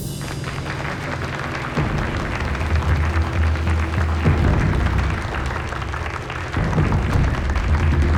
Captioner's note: applause